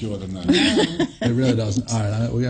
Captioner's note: laughs